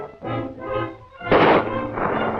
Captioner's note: gunshot